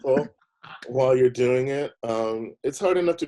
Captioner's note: laughing